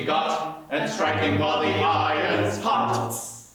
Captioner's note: hiss